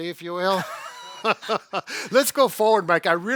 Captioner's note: both laughing